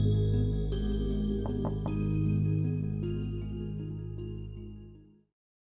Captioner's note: knock, knock, knock